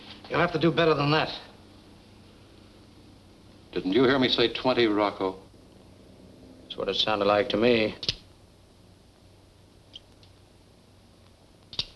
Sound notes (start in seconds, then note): 8.3 clicking